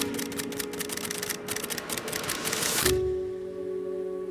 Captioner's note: camera snapping